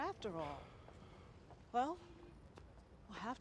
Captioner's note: sighs